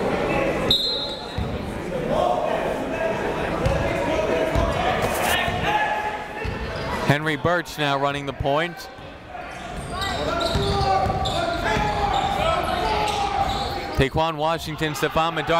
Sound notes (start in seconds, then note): 0.7 whistle; 1.3 chatter; 8.8 chatter